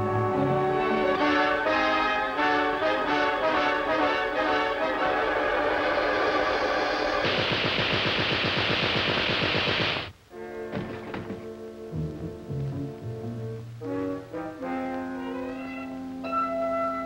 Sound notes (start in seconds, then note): 7.1 machine guns firing; 12.3 soft dramatic music